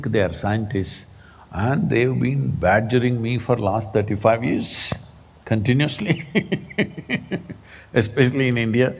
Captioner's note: laughs